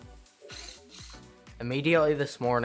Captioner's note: drill whirs